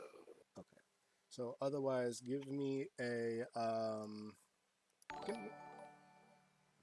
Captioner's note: alert goes off